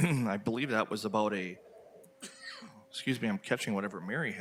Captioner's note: coughs